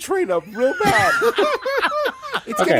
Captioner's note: laughter